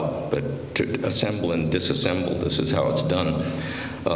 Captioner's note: none